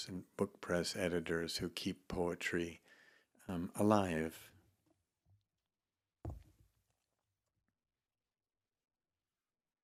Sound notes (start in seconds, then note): 6.3 tablet taps